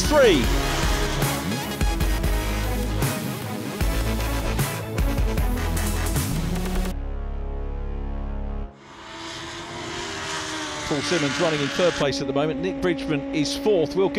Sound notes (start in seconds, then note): 0.0 upbeat electronic music; 8.6 engines roaring